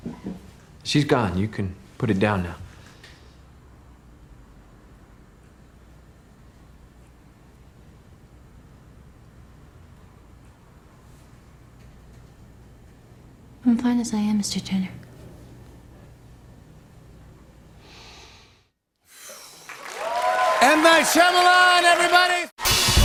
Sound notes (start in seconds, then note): 17.7 inhales deeply; 19.0 exhales sharply; 19.6 cheers and applause